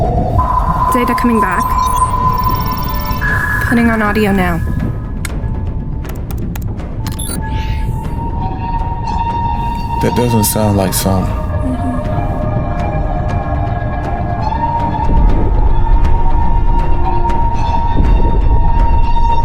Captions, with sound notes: Data coming back, putting on audio now. (sub whirring) - That doesn't sound like sonar. (brooding music)